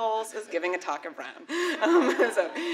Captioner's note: laughter